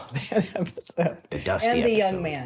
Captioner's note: laughs